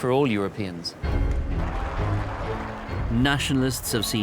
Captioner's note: cheering